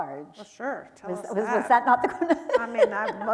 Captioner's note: laughs